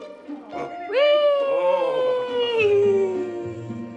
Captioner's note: cheering